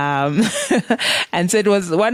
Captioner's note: chuckles